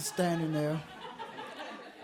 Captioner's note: audience laughs